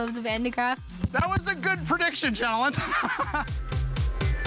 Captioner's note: laughing; upbeat music